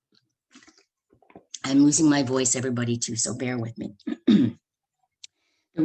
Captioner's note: clears throat